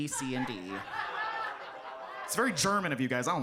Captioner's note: audience laughs